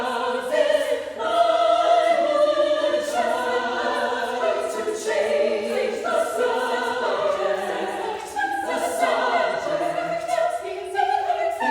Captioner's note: other voices continue, ascending